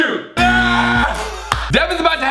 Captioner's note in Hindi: चिल्लाना